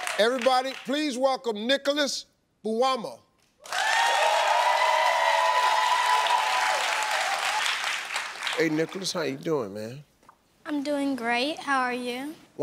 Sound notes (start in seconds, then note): 3.6 audience cheering